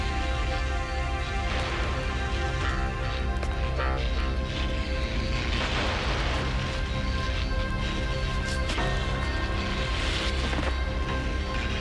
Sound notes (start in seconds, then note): none